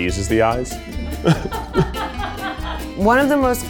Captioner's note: laughs